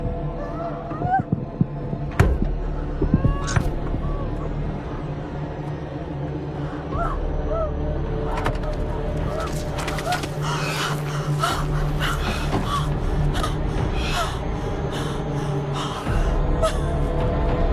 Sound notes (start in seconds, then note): 2.2 slap, crying; 8.3 unlatching; 9.9 labored breathing, crying; 15.3 crying continues